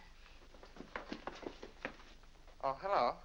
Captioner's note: brisk footsteps down stairs